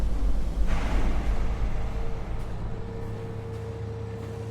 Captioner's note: construction banging